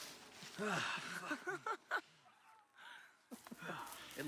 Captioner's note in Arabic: ضحكة مكتومة